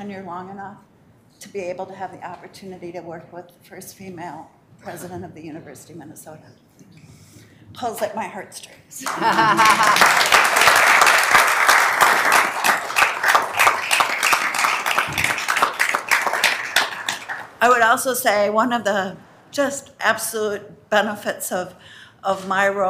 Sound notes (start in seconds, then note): 9.0 laughing; 9.0 members applauding